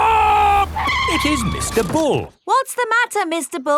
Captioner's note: tires screeching